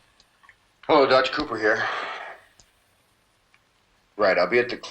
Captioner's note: sighs